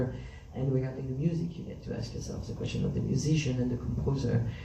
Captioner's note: none